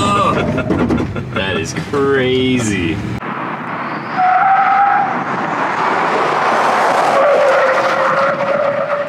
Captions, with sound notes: That is crazy. (tires screeching)